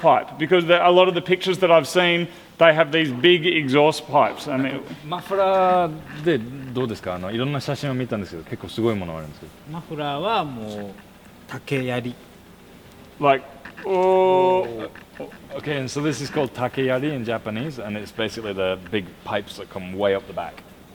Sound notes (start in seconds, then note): 4.9 speaking Japanese